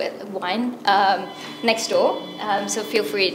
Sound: phone ringing

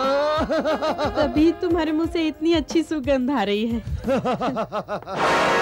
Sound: laughs

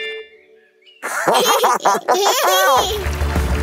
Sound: giggling

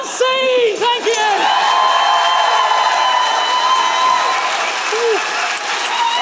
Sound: applause

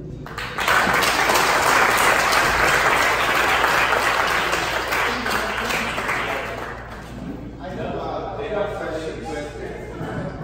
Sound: applause

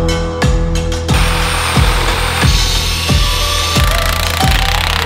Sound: power tools whirring

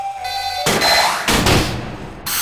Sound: bang

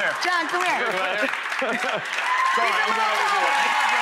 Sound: cheering

